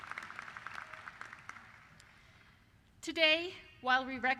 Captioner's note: cheers and applause